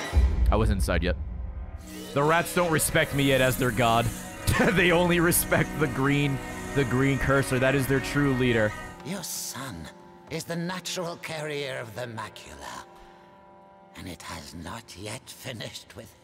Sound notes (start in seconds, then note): 4.4 laughs